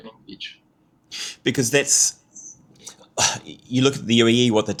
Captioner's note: sighs